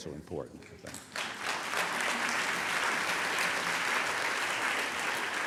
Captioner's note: applause